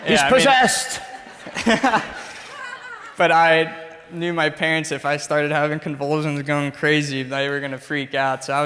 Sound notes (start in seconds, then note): 1.8 laughs